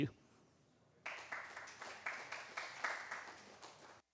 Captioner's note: applause